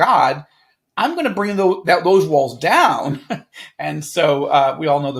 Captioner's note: chuckles